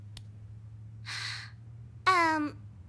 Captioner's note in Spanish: suspiro